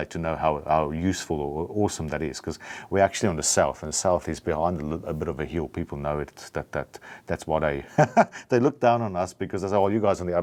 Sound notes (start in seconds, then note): 7.9 laughs